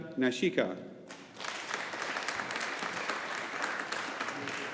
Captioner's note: audience applauding